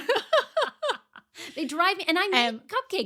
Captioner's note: laughing